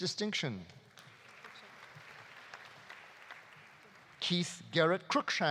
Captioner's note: audience applauding